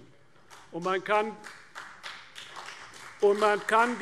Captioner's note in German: Vereinzelter Beifall CDU